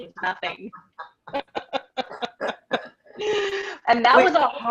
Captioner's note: laughing